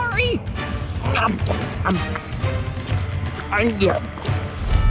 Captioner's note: chewing